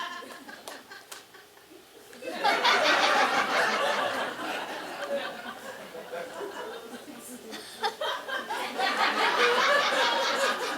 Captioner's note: audience laughing